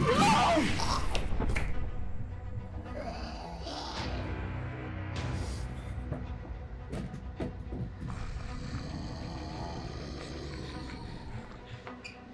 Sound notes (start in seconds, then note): 2.8 creature growls; 2.8 creature grumbling; 6.4 tense scary music; 8.0 creatures roar; 12.1 tense music